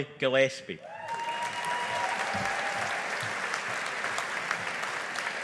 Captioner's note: audience applauding